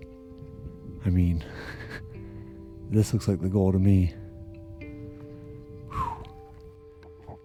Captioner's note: gasping